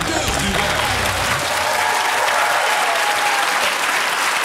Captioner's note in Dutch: gelach; applaus